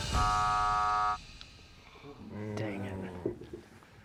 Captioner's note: buzzer sounds